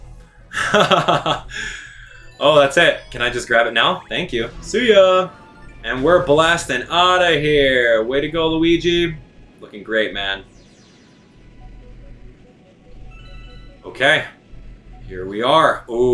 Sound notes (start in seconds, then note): 0.5 chuckles; 11.0 energetic music